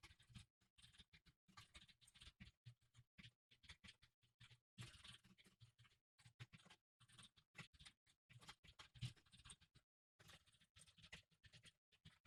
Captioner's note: typing sounds